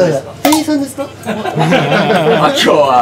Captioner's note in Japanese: 笑い